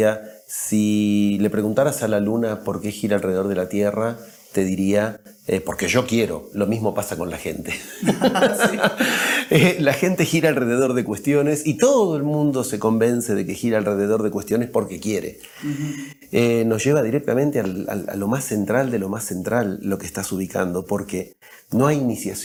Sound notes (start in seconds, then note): 7.8 laughs